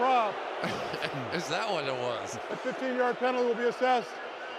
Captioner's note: laughs